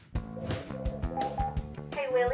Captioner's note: beeping